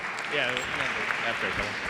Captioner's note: applause